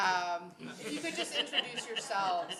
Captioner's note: audience laughs